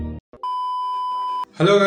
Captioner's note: beep